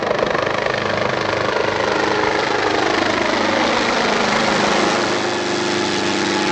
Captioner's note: helicopter passing